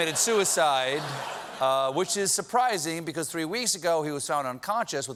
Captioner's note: laughter